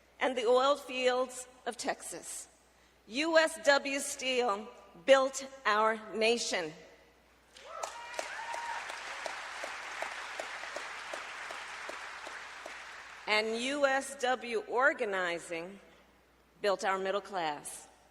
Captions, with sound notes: and the oil fields of Texas. USW Steel built our nation. (Applause.) And USW organizing built our middle class.